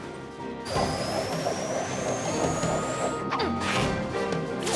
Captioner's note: whirl! whirl! whirl!